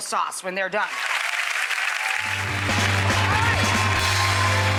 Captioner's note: audience applauds